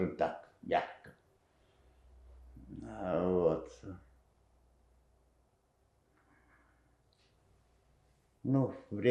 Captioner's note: pause 7 seconds